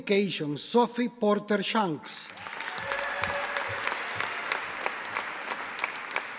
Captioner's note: audience applauding